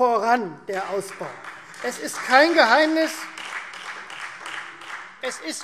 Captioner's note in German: Beifall Freie Demokraten